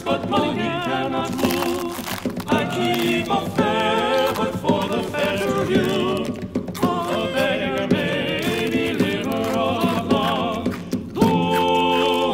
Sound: making loud noises with a bag of food over the music

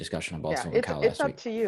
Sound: faintly speaking

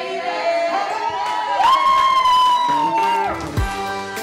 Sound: cheering; upbeat music

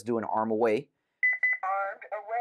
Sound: beep beep

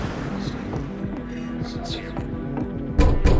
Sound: footsteps; metal clanging

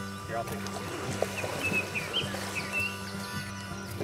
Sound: water splashing gently; lighthearted acoustic music continues

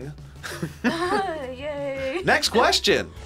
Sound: laughs

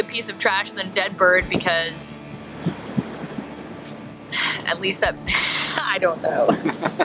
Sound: sighing

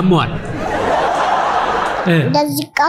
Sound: laughter

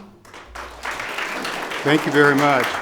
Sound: audience applause

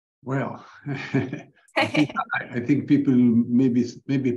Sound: chuckles

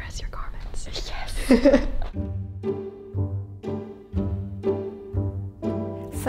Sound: laughs

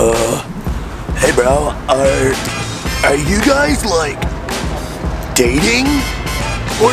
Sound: upbeat music; male Voice

